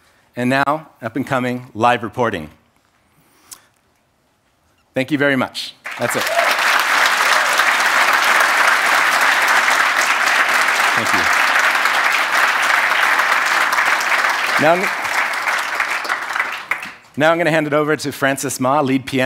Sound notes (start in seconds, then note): 6.8 applause; 12.0 applause